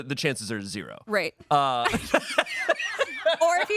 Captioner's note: laugh